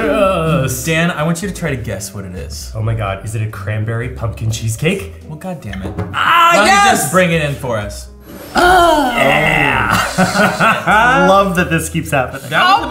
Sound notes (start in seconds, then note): 8.3 gasps; 10.3 laughs